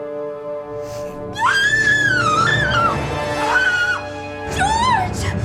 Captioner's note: Anya Screams